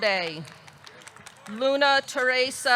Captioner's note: audience clapping